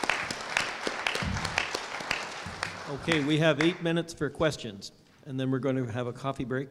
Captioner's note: applause